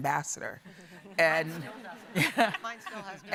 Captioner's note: audience and panel laughing